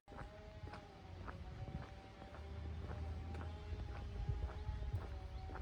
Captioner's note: nearby chainsaw noise